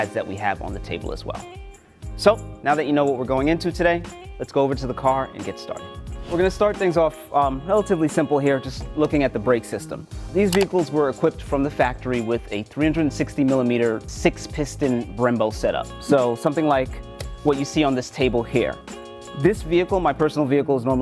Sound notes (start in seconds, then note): 6.0 air whooshing